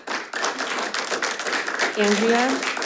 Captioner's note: audience applauds